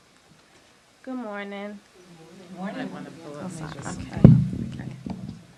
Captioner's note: applause